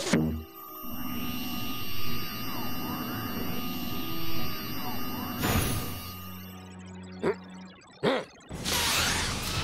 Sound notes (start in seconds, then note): 0.3 electric whirring; 7.1 grumbles